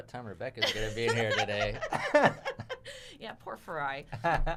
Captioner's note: laughing